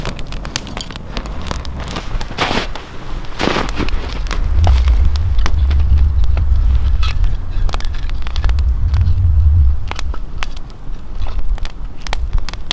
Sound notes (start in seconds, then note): 2.8 snow crunching; 6.5 fire crackling